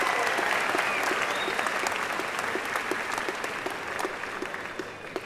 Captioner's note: applause